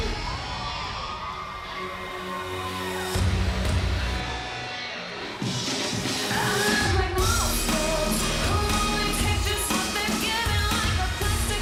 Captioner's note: crowd cheering